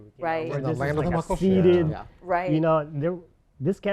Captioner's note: chatter